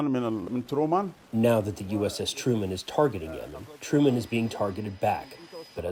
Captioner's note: through translator